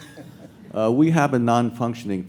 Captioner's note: laughs